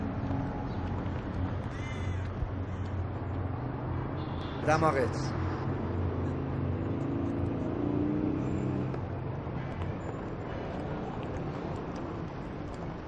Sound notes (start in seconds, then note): 1.6 crow singing; 6.0 street noises